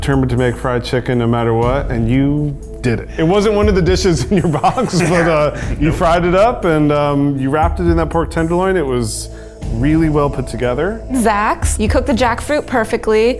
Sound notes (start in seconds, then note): 4.0 laughs